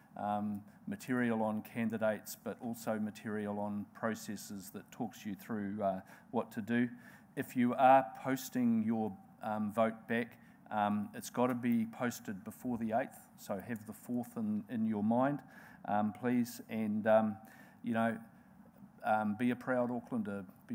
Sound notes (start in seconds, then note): none